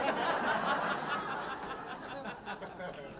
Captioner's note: laughter